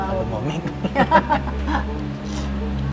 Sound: laughs

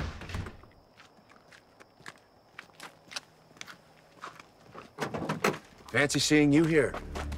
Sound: crickets chirping; gravel crunching

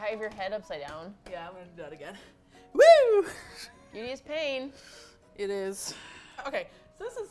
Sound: laughs

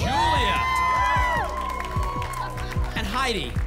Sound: applause and cheering

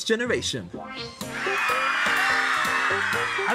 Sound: cheering

